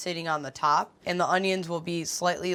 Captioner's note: none